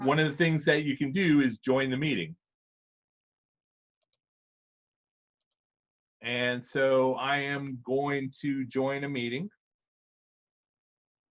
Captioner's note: silence